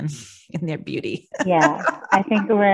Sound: laughs

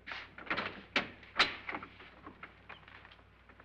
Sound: door opens

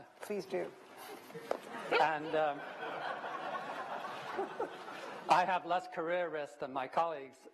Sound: laughter

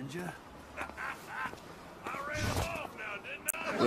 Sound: laughs

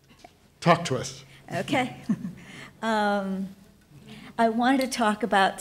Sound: laughs

